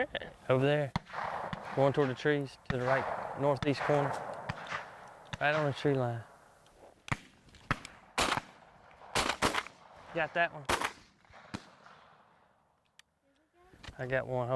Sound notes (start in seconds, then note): 7.0 gun fire